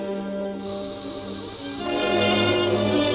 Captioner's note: gas hissing; somber music